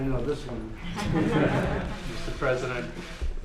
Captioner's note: laughter